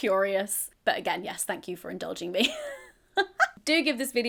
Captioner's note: laughs